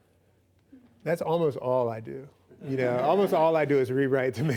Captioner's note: laughs